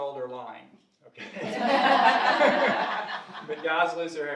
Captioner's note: audience laughing